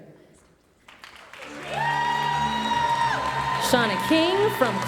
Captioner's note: audience cheering and applauding